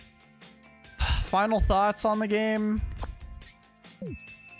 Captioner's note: sigh